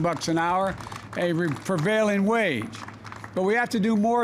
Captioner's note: applause